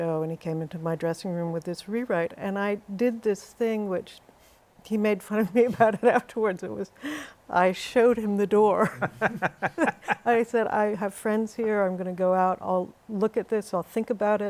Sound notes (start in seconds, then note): 8.8 laughter